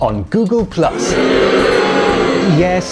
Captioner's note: boos